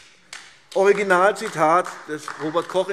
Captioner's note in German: Beifall AfD